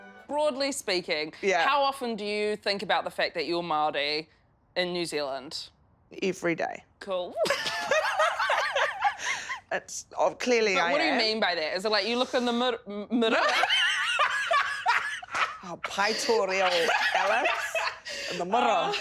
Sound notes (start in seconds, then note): 7.5 laughs loudly; 13.4 laughs loudly